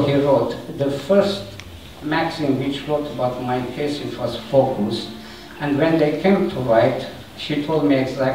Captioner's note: Swedish